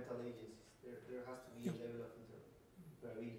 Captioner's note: male speaking off microphone